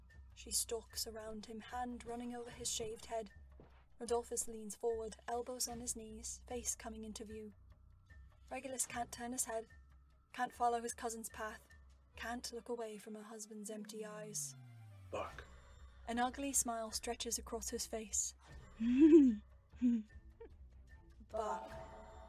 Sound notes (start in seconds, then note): 18.8 Bellatrix cackles